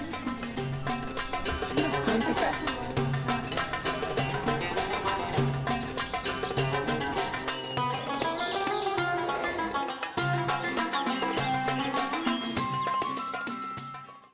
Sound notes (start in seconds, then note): 0.0 quiet conversation & music